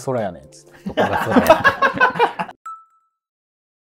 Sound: laughing

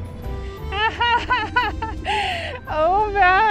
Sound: childish Laughter

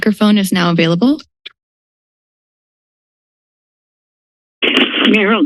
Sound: silence

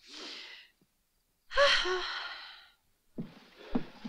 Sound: sighing

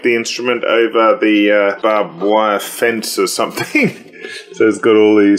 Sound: laughs

